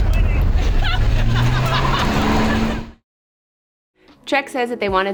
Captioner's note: crowd laughs in the distance